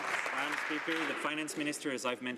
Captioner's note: some Applause